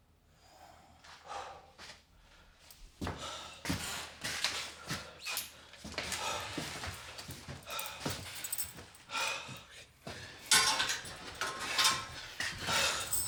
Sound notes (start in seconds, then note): 1.2 Brown exhaling; 10.5 lock clanking